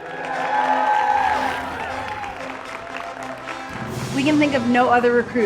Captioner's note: audience applauds